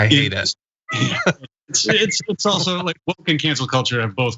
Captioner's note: laugh